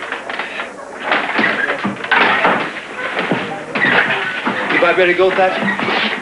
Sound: doors banging

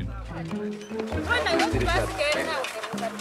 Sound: Portuguese spoken audio

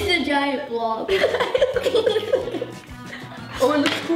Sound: laughs

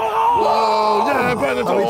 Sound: group cheering

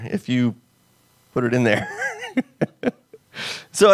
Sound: laughs

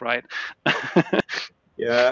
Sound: laughs

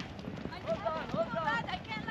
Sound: speaking in foreign language; footsteps

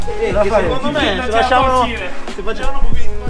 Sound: complaining

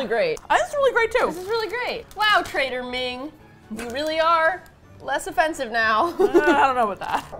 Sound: laugh

